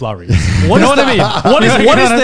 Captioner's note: laughs